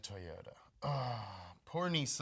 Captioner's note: groaning